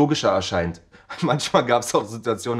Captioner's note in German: lacht